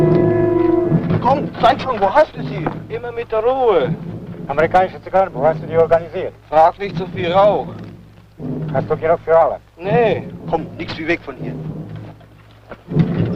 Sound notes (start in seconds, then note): 0.7 footsteps; 12.2 footsteps